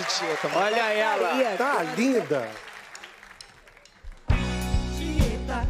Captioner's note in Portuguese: aplausos